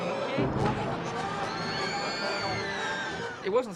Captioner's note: kids screaming